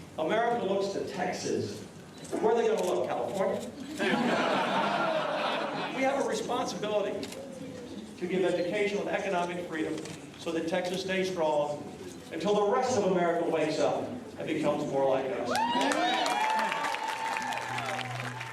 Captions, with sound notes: America looks to Texas. Where are they going to look, California? [laughter] We have a responsibility to give education with economic freedom so that Texas stays strong until the rest of America wakes up and becomes more like us. [cheers and applause]